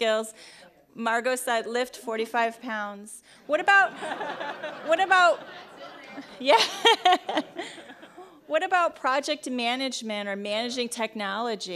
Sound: laughing

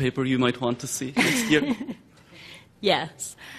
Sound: laughing

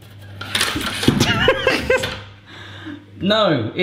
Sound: laughing

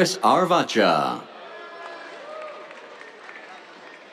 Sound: cheers, applause

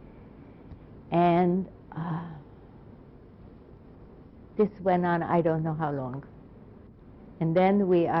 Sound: pauses for 3 seconds

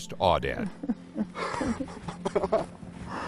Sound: laughter

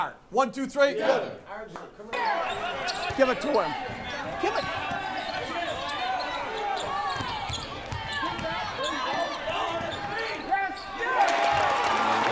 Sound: cheering

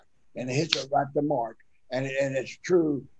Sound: fist smacking

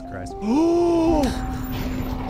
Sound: gasps

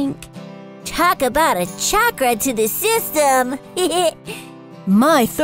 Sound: giggles

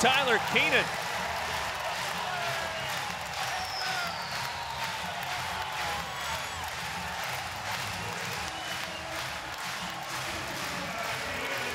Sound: crowd cheering and clapping

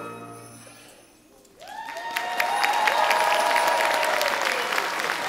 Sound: audience cheering

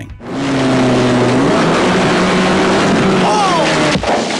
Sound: engine roar

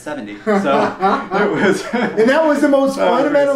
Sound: both laugh

